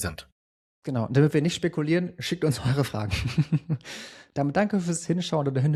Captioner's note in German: gelächter